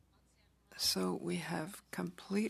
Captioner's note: speaking French